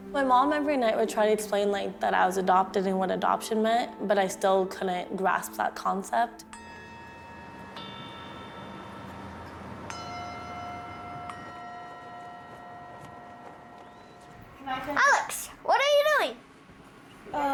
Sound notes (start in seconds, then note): 6.5 bell ringing